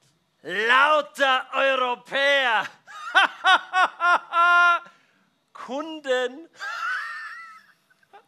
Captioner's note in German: lacht